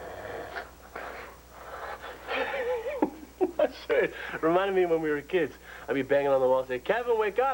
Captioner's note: snoring